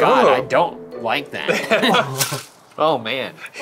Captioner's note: ice rattling